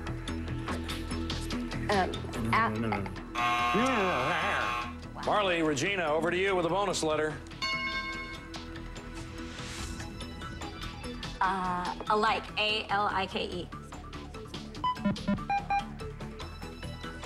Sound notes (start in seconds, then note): 3.3 buzzer